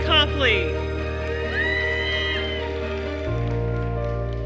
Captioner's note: cheers and applause